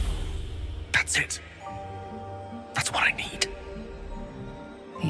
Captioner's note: whispers